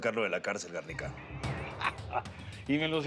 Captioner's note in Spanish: risas